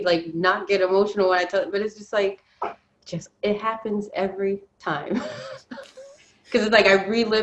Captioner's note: laughs